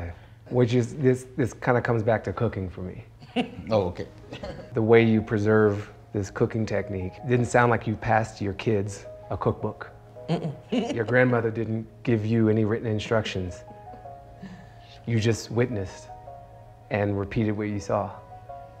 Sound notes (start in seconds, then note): 3.2 chuckles